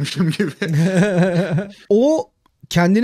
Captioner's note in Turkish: Gülüşmeler